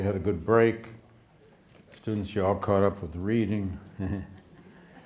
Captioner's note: laughs; students laughing